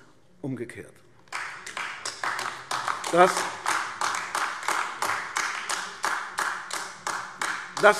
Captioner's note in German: Beifall AfD